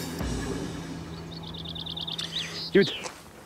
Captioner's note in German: birdsong